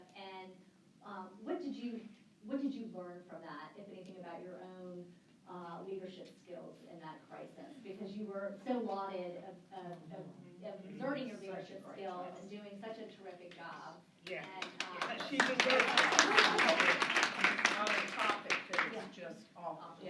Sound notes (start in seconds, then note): 14.3 applause